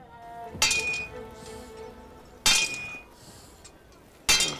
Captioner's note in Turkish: Demir dövme sesi